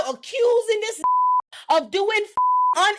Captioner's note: beep